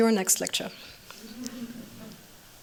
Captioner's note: laughter